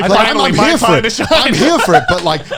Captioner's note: overlapping chatter